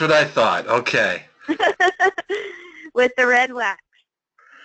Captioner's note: laugh